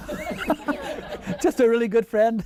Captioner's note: laughing